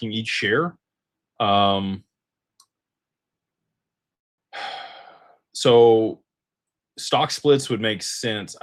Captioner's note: sighs and gasps